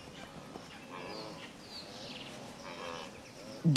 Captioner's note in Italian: cinguettii